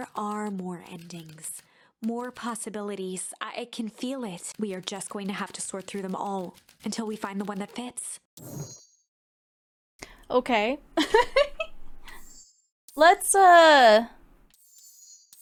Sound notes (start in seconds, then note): 11.0 laughs